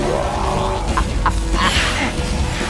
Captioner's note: laughs evilly